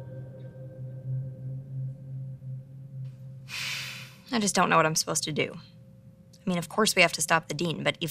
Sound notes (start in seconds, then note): 3.5 sigh